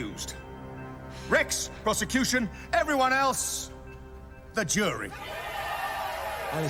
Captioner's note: crowd cheering